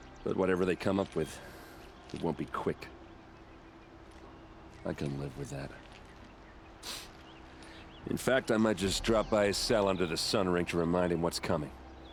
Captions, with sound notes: ...but whatever they come up with... ...it won't be quick. I can live with that. (sniff) In fact I might just drop by his cell under the Sun Ring and remind him what's coming.